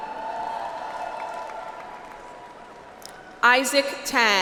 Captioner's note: audience applauds